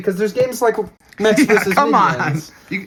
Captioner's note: laughing